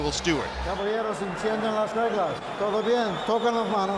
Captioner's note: referee speaking Spanish